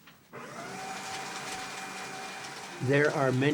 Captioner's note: paper shredder whirrs